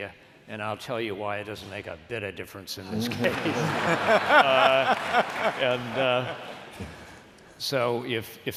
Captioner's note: laughter